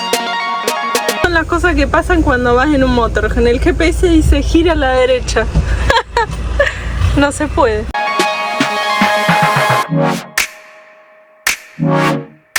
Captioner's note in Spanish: risas